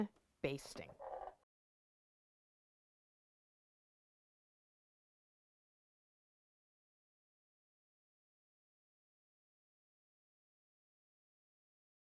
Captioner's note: no Sound Present